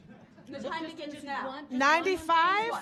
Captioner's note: audience laughing